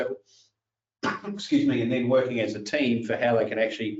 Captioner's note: coughs